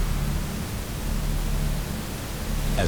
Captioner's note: buzzing